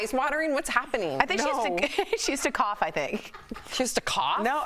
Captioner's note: laughter